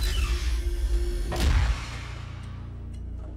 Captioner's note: slam